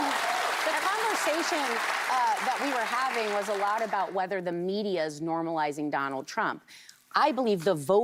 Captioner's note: cheers and applause